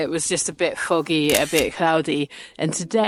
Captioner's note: camera clicks